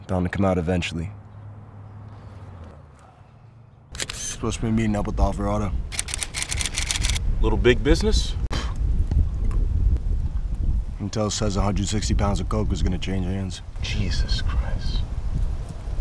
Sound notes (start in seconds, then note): 8.6 man with camera spits